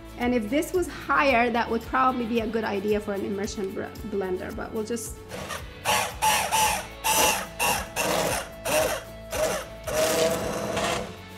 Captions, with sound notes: and if this was higher that would probably be a good idea for an immersion blender but we'll just (blender whirring)